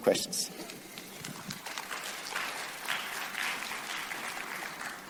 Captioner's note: audience applauding